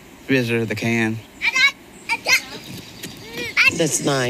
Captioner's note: kid screaming